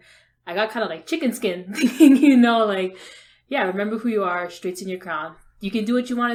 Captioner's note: laughs